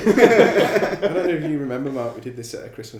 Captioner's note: laughing